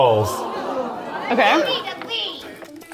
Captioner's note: audience gasping